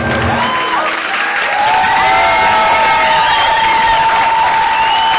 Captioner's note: cheering and applause